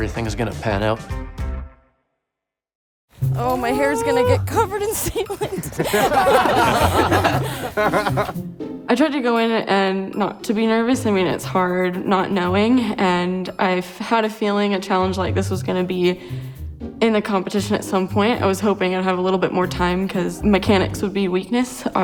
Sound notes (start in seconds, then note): 5.7 riders laughing